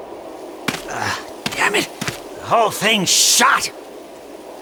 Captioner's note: grunts